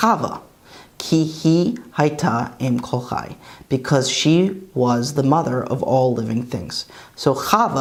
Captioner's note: Hebrew